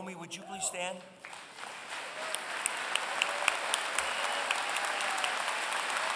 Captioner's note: applause